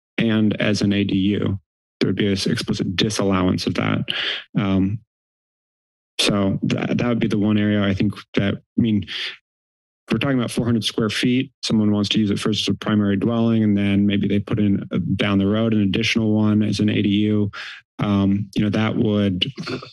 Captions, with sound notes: and as an ADU. There would be a explicit disallowance of that. [inhales] So that would be the one area, I think. I mean, we're talking about 400 square feet, someone who wants to use it first to a primary dwelling and then maybe they put in, down the road an additional one as an ADU,